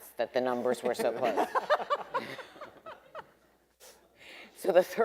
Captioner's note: everyone laughing